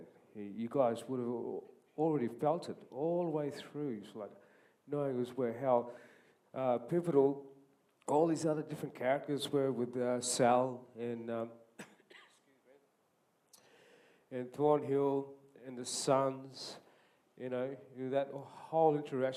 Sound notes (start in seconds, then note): 11.7 coughs